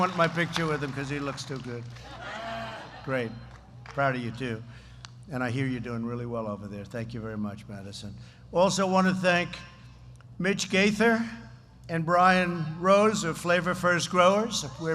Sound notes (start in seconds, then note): 2.0 laughter